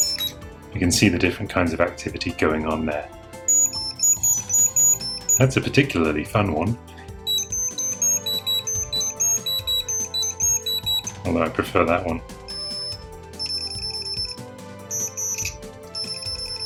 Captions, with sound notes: You can see the different kinds of activity going on there (beeping, sounds like R2D2) That's a particularly fun one! (more beeping, not like R2D2) Although, I prefer that one (more high pitched beeping)